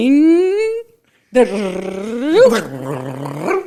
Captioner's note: laughs; imitates sound